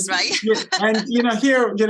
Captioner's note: laughs